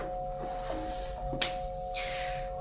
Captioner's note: none